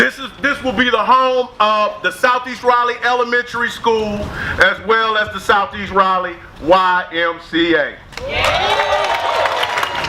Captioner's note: cheers